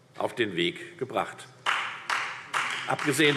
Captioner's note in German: Beifall Freie Demokraten